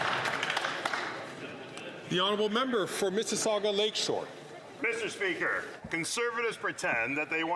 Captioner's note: some Applause